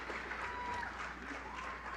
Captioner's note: applause